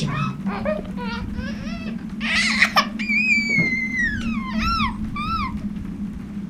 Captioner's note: baby crying